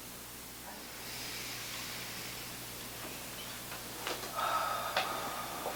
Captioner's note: both breathing deeply